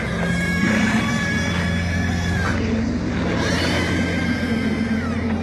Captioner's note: screaming; dogs Baying